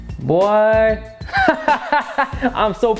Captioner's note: laughs